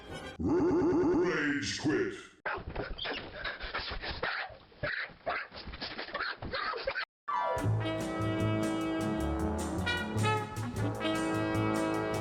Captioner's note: angry British noises